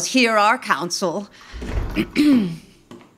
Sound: door closing; footsteps returning

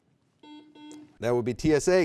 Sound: buzzer beeping

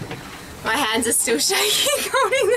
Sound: laughs

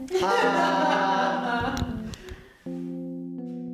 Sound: laughing

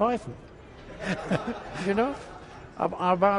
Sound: laughs

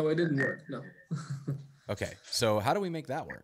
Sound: laughs

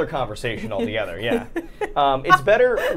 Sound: Safiya laughing

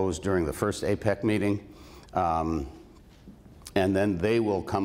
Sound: none

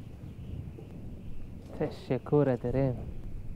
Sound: Turkish

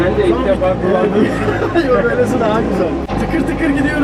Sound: laughing

